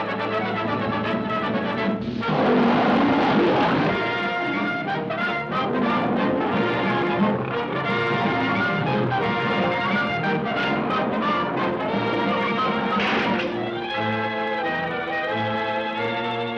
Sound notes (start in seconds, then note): 0.0 triumphant music; 2.1 panthers roaring; 12.8 door closing